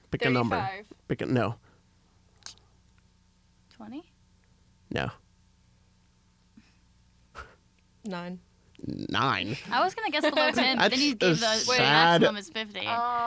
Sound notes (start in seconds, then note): 9.1 laugh